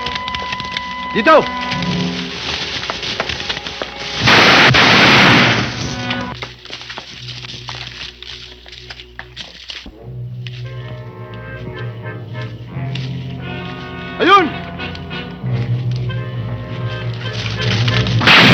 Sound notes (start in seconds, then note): 1.0 speaking in foreign language; 4.1 gunshots blasting; 14.2 speaking in foreign language